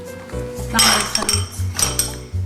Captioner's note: clink clank